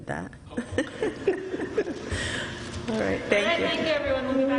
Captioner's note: laughter